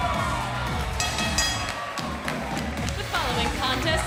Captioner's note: crowd cheering; bell ringing